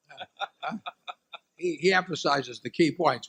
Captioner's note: laughter